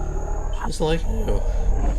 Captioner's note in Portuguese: choramingando